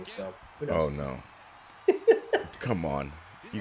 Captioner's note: laugh